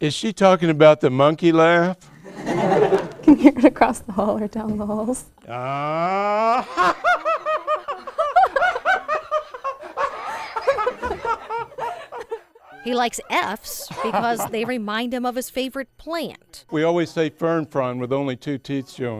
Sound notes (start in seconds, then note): 2.1 students laughing; 5.6 laughing